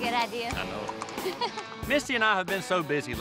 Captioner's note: giggling